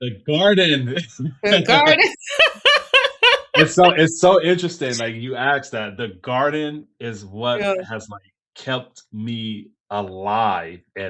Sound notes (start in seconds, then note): 1.4 laughing